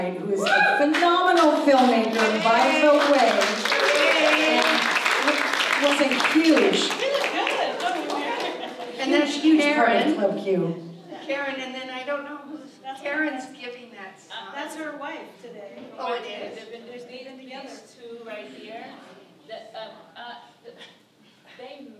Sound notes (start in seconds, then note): 3.8 applause